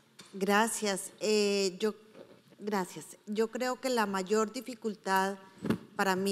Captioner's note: speaking in foreign language